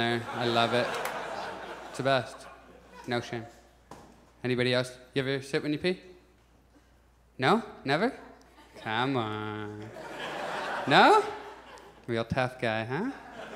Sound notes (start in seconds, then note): 0.0 audience laughs; 9.8 audience laughs; 13.1 audience chuckles